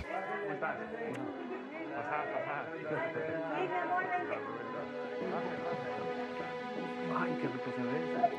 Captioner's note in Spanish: Bullicio